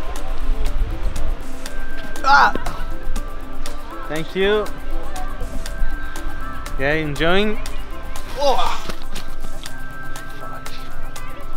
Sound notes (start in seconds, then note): 2.3 grunts; 8.4 gasps